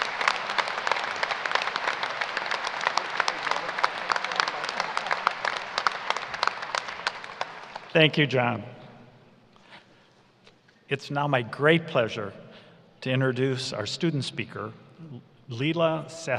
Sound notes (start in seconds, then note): 5.8 applause